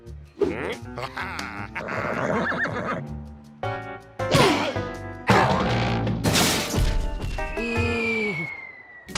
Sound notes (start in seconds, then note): 1.7 neighs; 6.2 crash; 7.4 air whistling